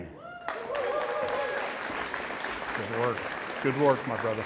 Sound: audience applauds and cheers

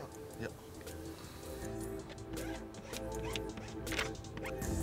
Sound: plastic squeaks

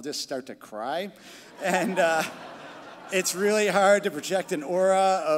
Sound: crowd laughing

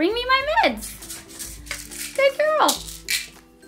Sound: pillbottle rattling

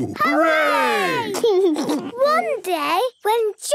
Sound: laughs

